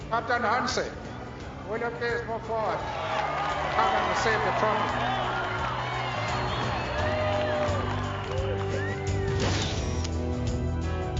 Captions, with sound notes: Captain Hansie, will you please move forward? (cheering) Come and receive the trophy. (boom and camera winding)